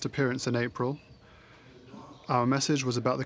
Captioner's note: speaking in French